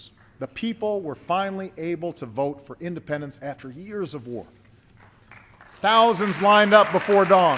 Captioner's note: applause